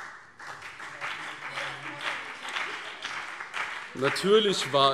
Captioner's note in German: Beifall BÜNDNIS 90/DIE GRÜNEN und vereinzelt CDU